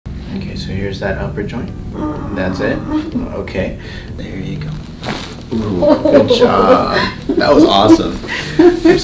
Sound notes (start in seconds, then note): 1.9 patient groaning in pain; 4.6 back cracking; 5.6 laughing